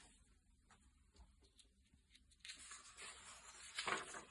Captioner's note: paper shifting noises throughout video